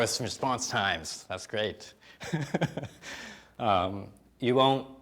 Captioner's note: chuckling